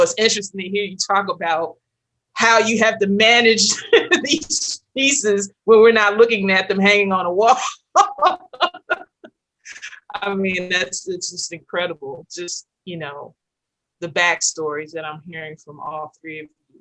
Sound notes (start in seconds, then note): 7.7 laughs